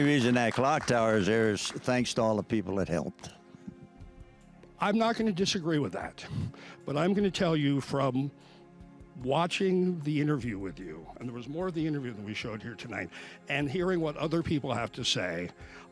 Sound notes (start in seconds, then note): 3.2 applause